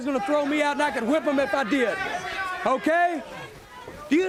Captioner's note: crowd chatter